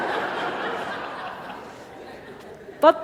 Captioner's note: laughter